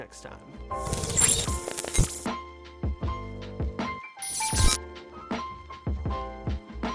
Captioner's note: digital sounds; chill piano music